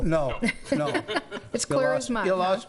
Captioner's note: laughing